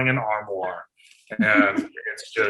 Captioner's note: laughing